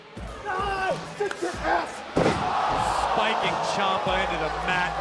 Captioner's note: crowd cheering